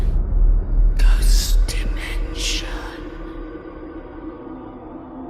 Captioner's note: ghostly Voice